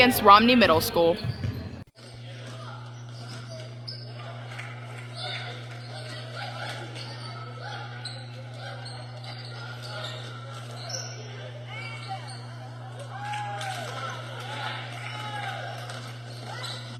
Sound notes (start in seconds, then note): 2.0 randon shoe squeaks, basketball bouncing sounds, crowd noises and cheers